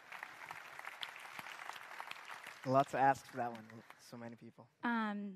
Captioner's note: applause